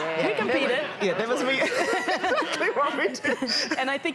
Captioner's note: laughter